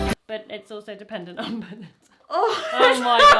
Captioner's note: laughs